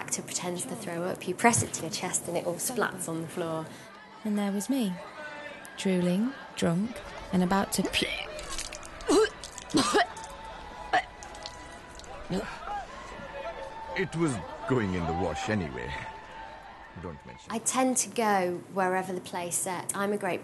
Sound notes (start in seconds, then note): 8.9 vomit noises